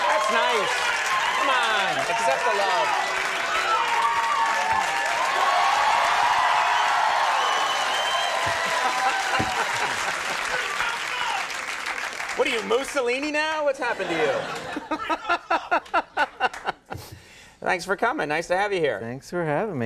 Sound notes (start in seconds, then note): 3.2 applause; 8.6 laughing; 14.0 laughing